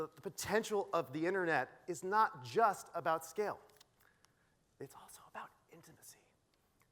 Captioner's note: whispering